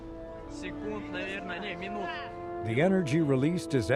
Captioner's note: witnesses speaking Russian